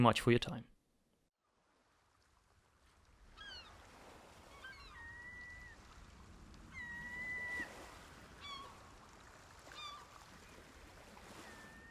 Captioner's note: seagull and water noises